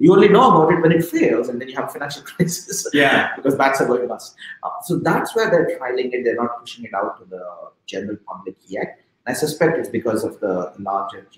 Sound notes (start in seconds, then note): 2.9 chuckling